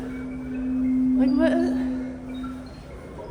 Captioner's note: bewildered noises